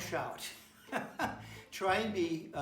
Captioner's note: laughs